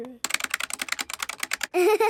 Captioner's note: keyboard clicking